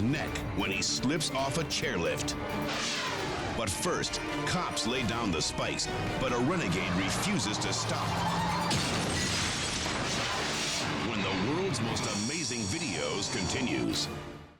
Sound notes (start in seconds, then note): 8.3 cars crashing; 8.3 tires skidding